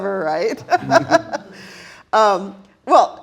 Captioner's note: all laughing